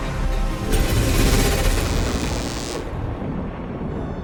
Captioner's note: motorcycle engine; lightning and thunder